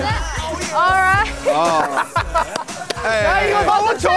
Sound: hosts laugh

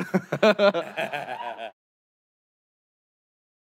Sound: laughter

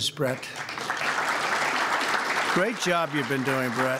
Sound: applause

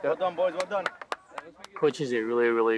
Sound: hands clapping

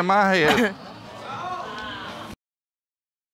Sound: audience exclaiming

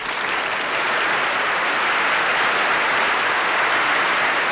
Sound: applause

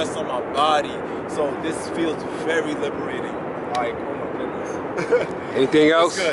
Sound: laughs

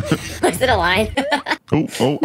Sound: laughs

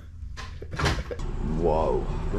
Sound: laughs

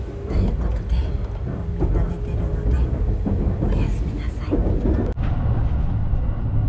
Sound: whisper

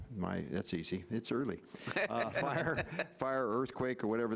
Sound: laughs

